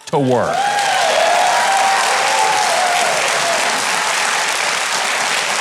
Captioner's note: audience claps and cheers